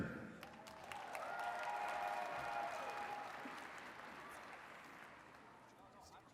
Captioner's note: attendees cheering and clapping